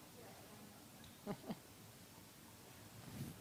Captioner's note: chuckles